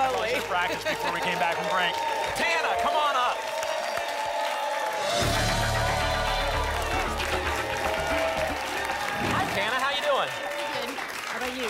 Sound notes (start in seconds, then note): 3.6 applause and cheering cont